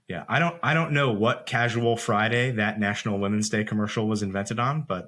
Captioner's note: none